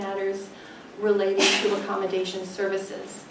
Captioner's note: sneezes